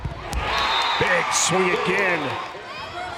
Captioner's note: crowd and players cheering